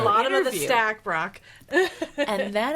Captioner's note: laughing